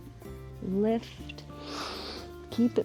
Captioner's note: inhales